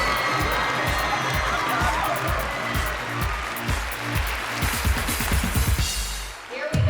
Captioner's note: cheering